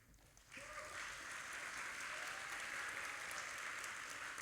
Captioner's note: audience applauding